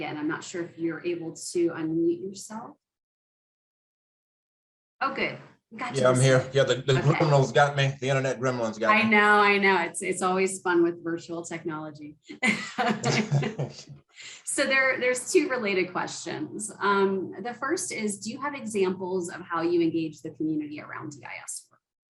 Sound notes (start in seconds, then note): 12.3 laughs